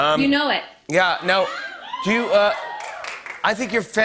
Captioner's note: audience cheering